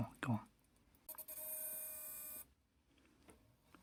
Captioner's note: quiet intermittent buzzing sound